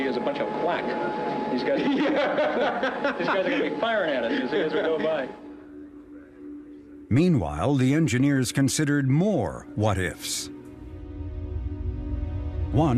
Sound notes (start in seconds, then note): 4.1 laughing